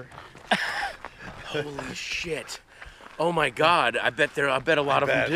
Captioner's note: laughing